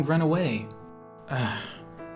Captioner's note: sigh